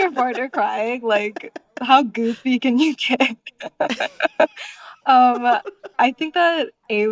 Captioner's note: laughter